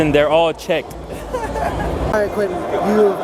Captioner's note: man laughing